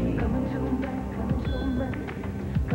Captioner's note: clink